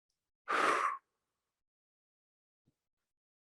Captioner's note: exhales